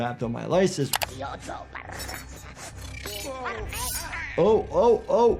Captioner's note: robot rambling angrily